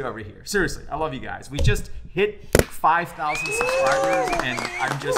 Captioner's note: people cheering